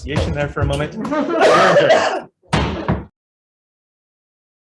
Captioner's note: Senators laughing